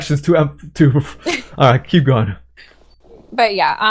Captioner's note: laughs